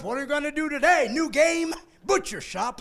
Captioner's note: laughing